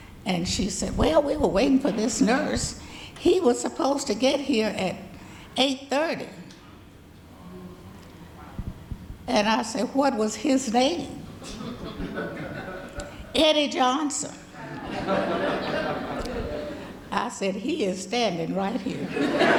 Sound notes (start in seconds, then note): 14.6 audience laughing; 19.0 audience laughing